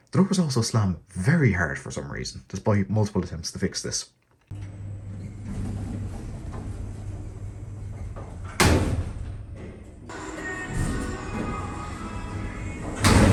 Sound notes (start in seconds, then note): 4.5 doors close; 8.7 doors slam and interlock latches; 10.4 doors close; 12.6 doors slam and interlock latches